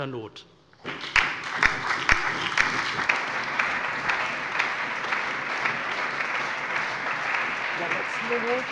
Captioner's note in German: Allgemeiner Beifall